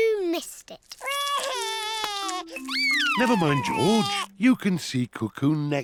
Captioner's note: sobs